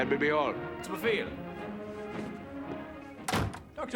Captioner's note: speaking german